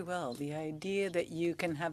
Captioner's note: speaking French